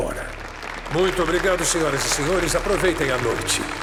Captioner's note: applause, applause